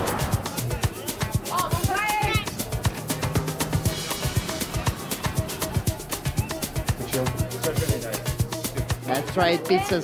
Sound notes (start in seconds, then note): 3.7 people talking in background